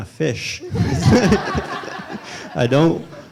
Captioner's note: laughter